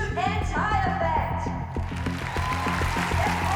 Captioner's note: cheering and applause